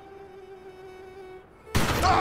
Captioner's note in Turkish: Silah Sesi; Adam Bağırıyor